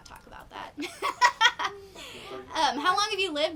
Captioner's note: laughing